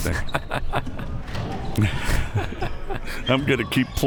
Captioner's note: both laughs